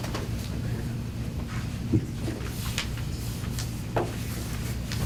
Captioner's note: whispering